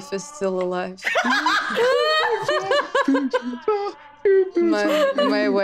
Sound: group laughing as faint singing is heard

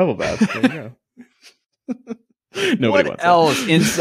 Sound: laughing

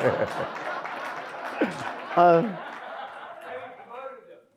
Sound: audience laughs

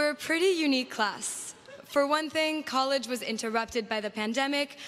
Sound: laughter

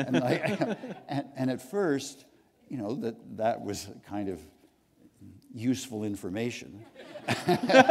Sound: laughter

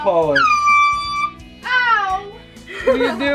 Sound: air horn

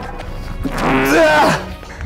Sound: grunting and screaming

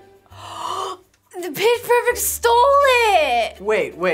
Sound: gasps sharply

